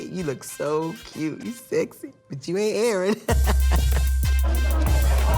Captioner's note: laughs